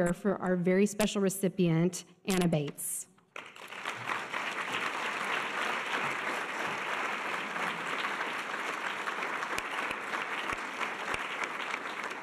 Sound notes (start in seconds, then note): 3.4 audience applause